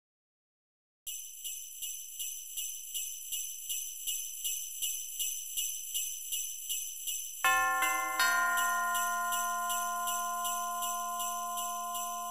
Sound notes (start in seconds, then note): 0.0 sound of bells